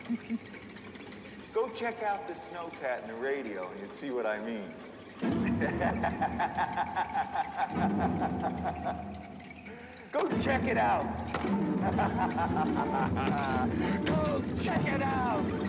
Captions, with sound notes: GO CHECK OUT THE SNOWCAT AND THE RADIO AND SEE WHAT I MEAN. [LAUGHING] GO CHECK IT OUT. GO CHECK IT OUT!